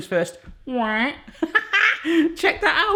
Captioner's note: laughs